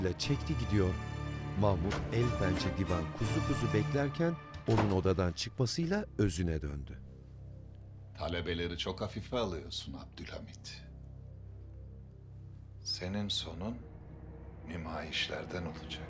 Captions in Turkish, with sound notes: (Kapı kapanma sesi) Talebeleri çok hafife alıyorsun Abdülhamid. Senin sonun nümayişlerden olacak.